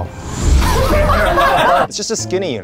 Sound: laughing

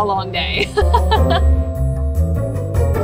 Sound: laughing; upbeat music

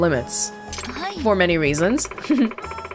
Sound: chuckles

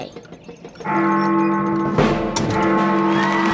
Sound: bell rings

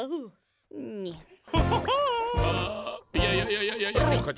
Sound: laughs

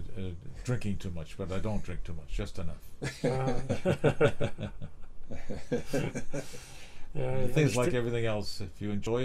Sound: laughter

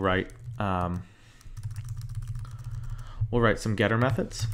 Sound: keyboard clicking

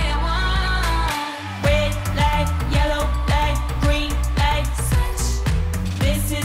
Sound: ooh

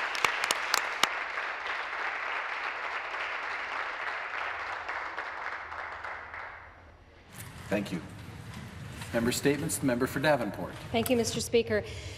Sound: some Applause

